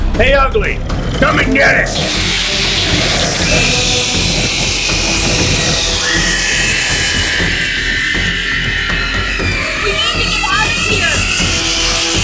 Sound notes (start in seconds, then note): 2.0 creature squealing; 2.0 electricity sizzling